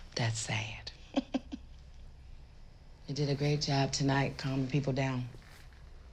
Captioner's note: chuckles